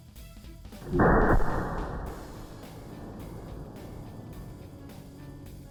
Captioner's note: gunshot